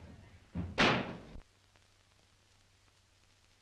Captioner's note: door slams